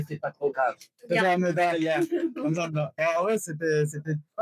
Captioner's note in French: en coréen